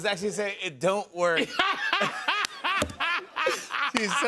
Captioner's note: laughter